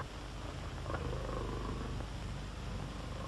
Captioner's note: bear growls